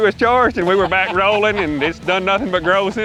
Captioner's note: laughs